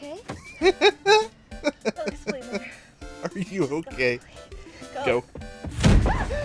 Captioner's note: laughter